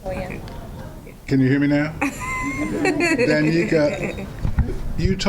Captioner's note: laughter